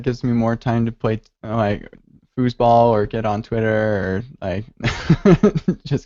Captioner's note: laughs